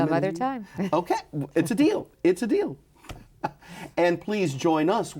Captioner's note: laughs